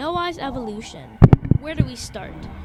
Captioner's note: loud mic hit